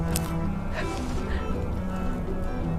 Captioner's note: June breathes heavily